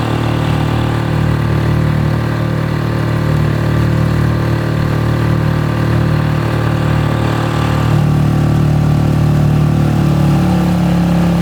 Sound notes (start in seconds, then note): 3.5 boat whirring